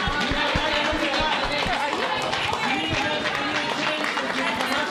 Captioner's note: applause